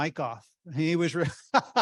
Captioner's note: laughing